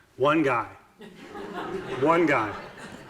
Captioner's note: audiences laughing